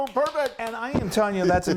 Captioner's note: he claps